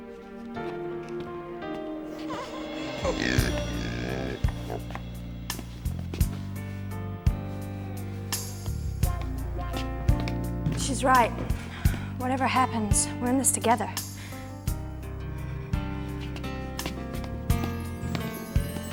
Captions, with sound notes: (pig oinks) (serene music) - She's right, whatever happens, we're in this together. (serene music)